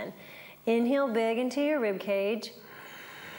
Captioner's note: breathes